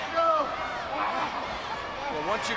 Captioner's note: Matt groaning